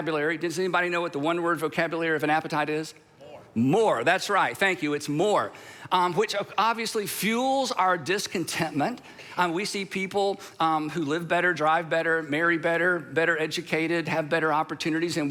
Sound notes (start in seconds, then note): 3.3 crowd